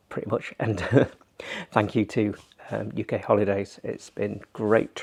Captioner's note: chuckles